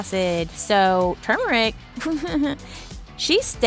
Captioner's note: nervous laugh